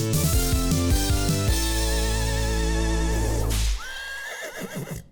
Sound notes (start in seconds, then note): 3.5 whip cracks; 3.8 horse whinnies